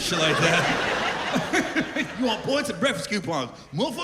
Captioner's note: laughter